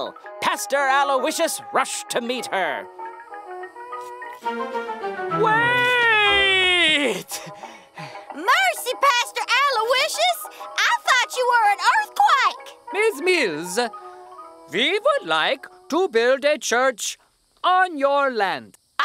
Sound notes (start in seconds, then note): 6.0 leo speaking in accent; 8.7 speaking in accent